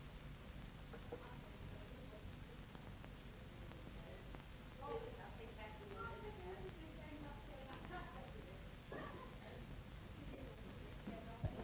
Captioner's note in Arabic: ثرثرة خافتة غير واضحة